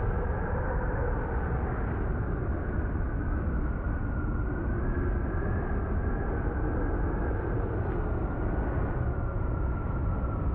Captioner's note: loud wind